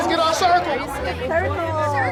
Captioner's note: students chattering